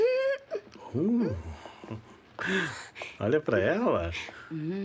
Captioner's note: laughs